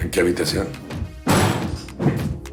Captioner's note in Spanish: Ruido al forzar la puerta